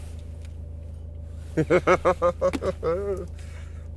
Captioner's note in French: rigole